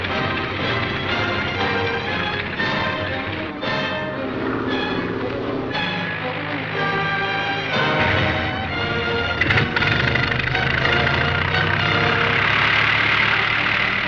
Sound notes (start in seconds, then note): 6.7 plane engine roaring